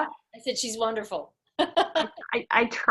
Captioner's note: laughing